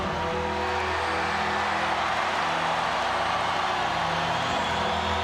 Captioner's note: audience cheering